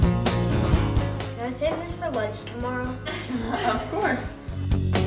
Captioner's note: laughter